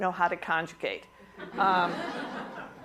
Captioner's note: laughter